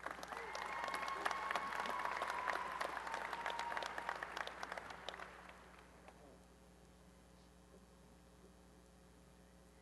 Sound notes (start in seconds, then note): 0.0 applause and cheering